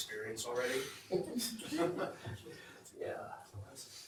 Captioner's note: laughter